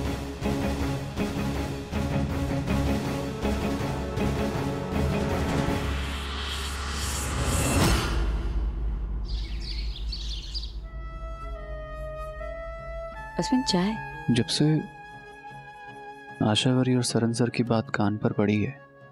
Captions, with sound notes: [dramatic music playing] [birds chirping] - Ashwin, your tea. - Since I overheard Asavari and Saran's conversation,